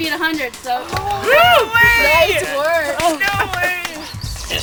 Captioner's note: all cheering